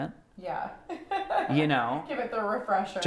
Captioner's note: laughs